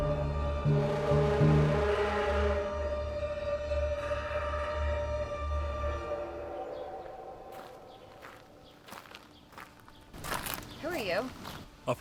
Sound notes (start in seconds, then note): 5.4 birds chirping; 6.2 foreboding music